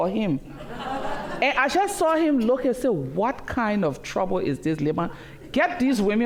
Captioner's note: laughter